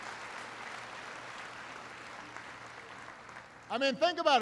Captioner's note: applause